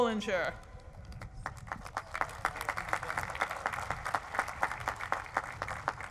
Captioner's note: applause